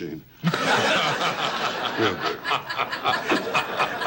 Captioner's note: audience laughs